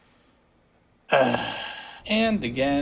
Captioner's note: sigh